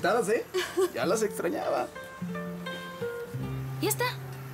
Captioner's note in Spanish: Ella ríe